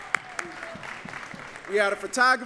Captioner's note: audience cheering and clapping